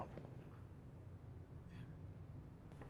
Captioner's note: whispers